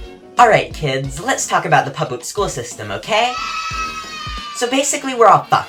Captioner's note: kids yay sound effect